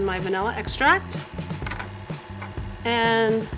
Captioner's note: mixer whirs